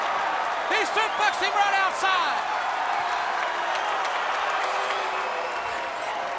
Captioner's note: crowd cheering